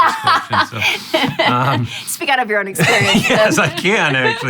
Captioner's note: laughs